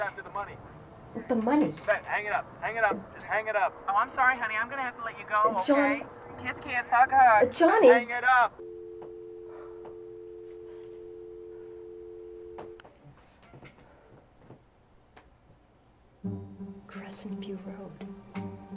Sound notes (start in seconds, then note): 1.3 voiceover; 3.7 voiceover; 6.8 voiceover; 8.4 voiceover; 8.6 hang up tone; 17.7 curious music